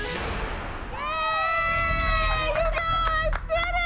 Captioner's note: cheering